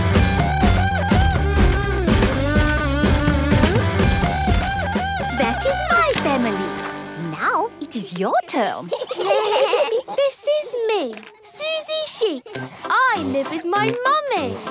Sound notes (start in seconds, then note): 8.8 children giggling